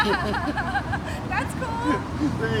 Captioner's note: laughing